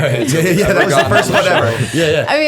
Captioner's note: laughter